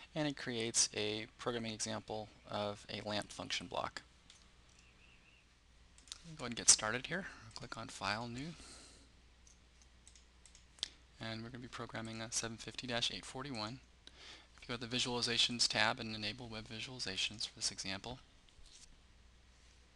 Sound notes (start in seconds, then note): 4.0 pause